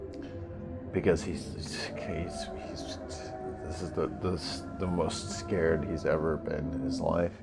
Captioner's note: sputters